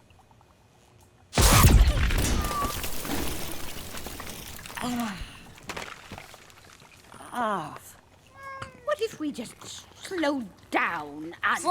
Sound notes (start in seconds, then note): 1.3 loud zapping; 1.3 debris crashing; 4.8 groaning